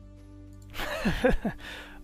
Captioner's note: laughter